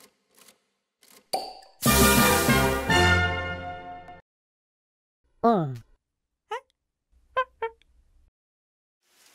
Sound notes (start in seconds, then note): 1.3 soda bottle pops; 5.5 alien talk